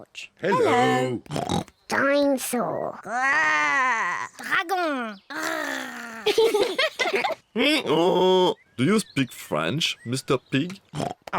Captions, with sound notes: Dinosaur. (ROARS) -Dragon. (ROARS) -(BOTH GIGGLE) (BRAYS) Do you speak French, Mr. Pig? -I am an expert at French. -(SPEAKS FRENCH)